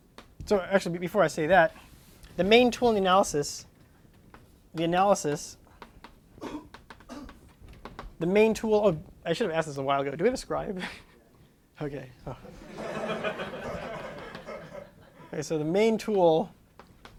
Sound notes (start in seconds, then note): 12.5 laughter